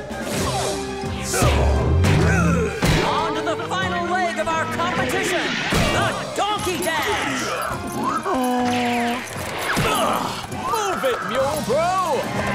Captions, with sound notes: [grunting] On to the final leg of our competition, the donkey dance. [braying] [grunting] Move it, yo bro!